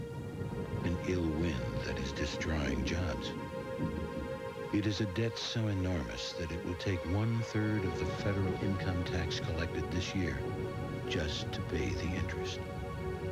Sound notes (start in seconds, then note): 0.0 V.O. continues reading on-screen text as thunder rumbles; 0.2 orchestral music builds